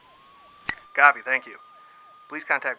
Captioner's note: voiceover